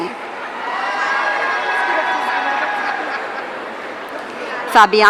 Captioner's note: audience cheering